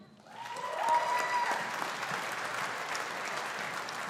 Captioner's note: audience applauding